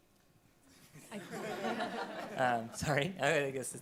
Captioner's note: panelists laughing